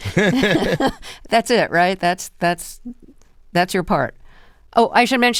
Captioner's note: laughter